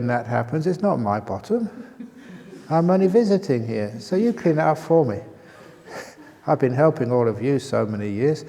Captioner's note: laughter